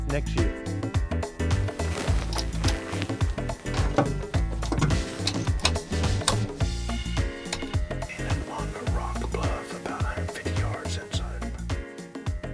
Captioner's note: whispering